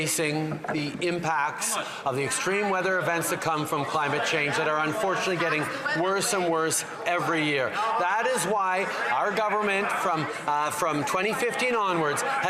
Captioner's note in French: voix de l'interprète